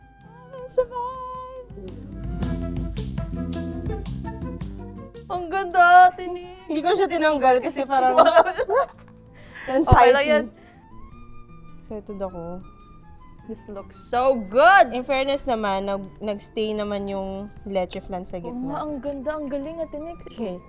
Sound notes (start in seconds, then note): 8.0 laughs